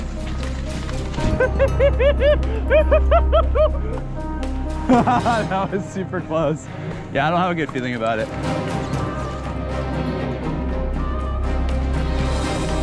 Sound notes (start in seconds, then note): 0.0 anticipatory orchestra music; 1.2 laughing loudly; 4.8 laughing; 8.7 anticipatory orchestra music